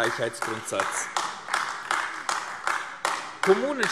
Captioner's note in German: Beifall AfD